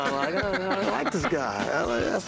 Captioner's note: laughs